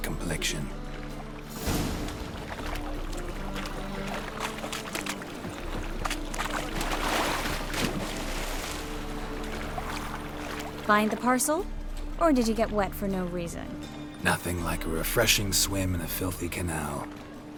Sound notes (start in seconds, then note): none